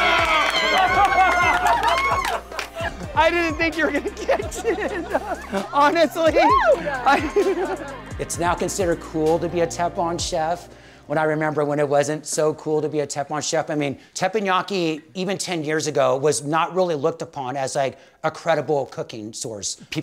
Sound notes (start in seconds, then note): 0.0 laughter and applause; 5.3 laughs